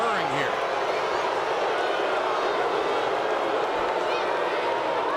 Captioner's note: audience booing